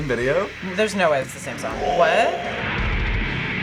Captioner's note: imitates heavy metal scream